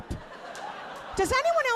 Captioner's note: audience laughing